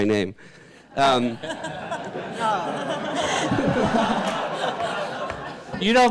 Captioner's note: audience, panel laugher